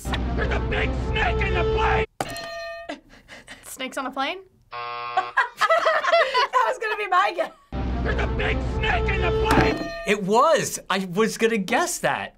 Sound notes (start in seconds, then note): 2.3 hitting bell; 4.7 buzzer; 5.2 laughing